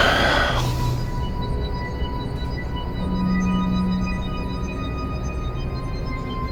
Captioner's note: Jim sighs